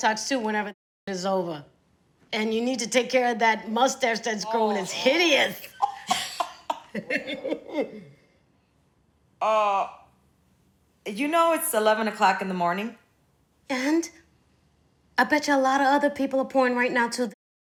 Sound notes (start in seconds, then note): 5.5 chuckling